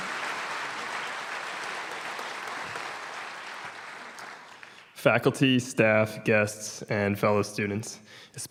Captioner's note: applause